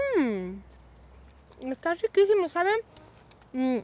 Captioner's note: speaking Spanish